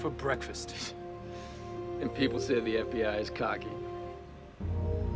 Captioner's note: laughs